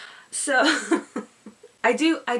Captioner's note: awkward, anger-desiring laughter